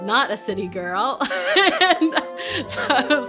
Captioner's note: laughing